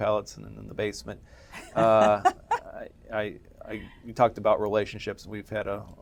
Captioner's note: laugh